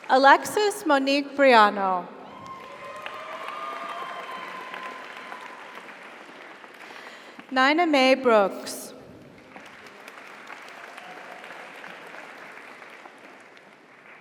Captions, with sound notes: Alexis Monique Briano. (audience applauds) (audience cheers) Nina Mei Brooks. (audience applauds) (audience cheers)